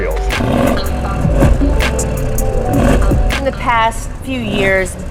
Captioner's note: car engine revving